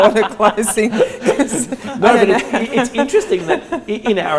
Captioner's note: all laugh